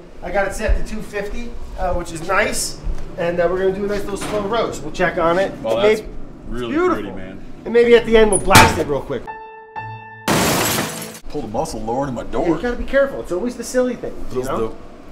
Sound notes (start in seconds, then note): 9.3 sad piano tune; 10.2 breaking glass